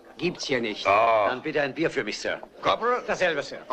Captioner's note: scoffs